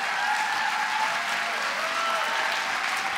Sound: applause; cheers

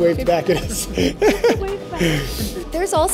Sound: laughs

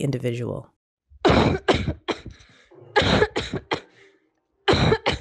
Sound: rapid coughs

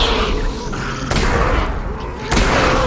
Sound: zombie moan; zombie pain

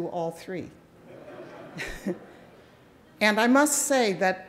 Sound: audience laughing

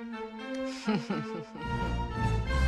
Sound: chuckles like a pro

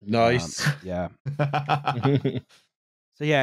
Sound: laughs

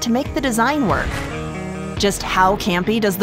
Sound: air whooshing

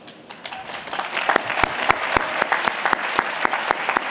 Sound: applause

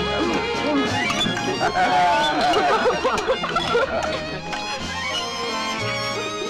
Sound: guests murmur; playful music

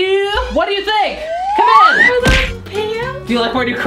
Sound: whirling noise

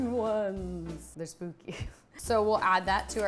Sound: laughs

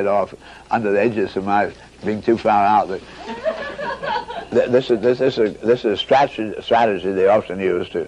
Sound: lots of laughs from the audience

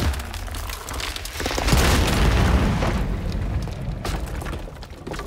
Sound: bridge collapsing

